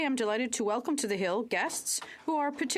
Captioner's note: speaking French